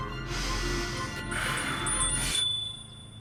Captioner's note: bell rings